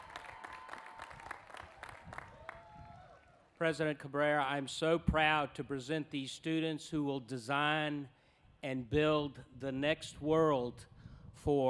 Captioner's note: applause